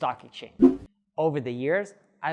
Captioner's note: air whooshing